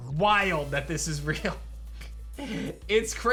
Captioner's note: giggles